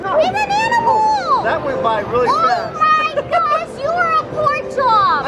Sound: laughs

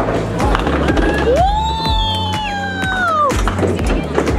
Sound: cheering

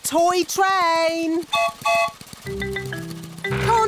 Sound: whistle blows

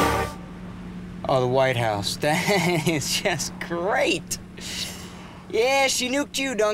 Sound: laughs

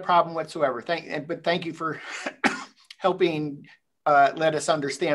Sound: clears throat

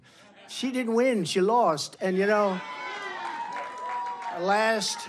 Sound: applause

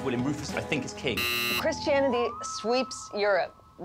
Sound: buzzer sounds

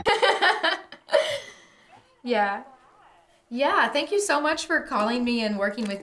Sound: laughs

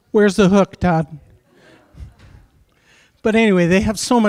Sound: chuckling

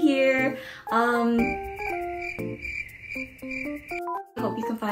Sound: cricket noises

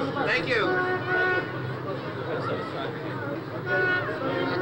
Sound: car horn honks

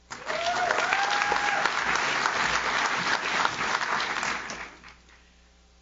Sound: audience claps; audience cheers

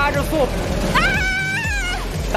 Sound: ahhhh

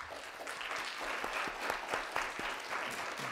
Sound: applause

